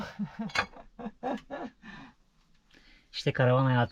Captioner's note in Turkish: kahkaha